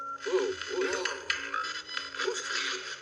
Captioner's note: distorting hun voice